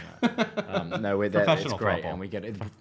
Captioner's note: laughing